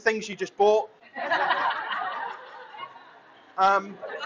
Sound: laughter

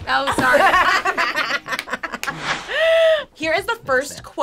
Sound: both laugh

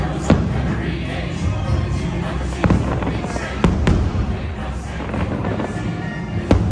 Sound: fireworks booming and cracking

